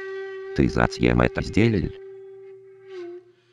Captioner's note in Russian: говорит с азиатским акцентом